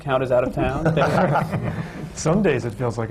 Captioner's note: laughter